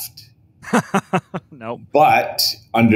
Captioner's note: laughs